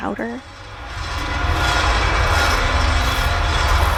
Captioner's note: static and metal grinding against metal